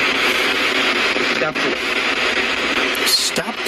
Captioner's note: Ovilus speaking